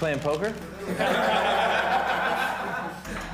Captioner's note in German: Gelächter